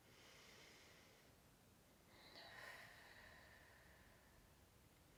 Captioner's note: inhaling and exhaling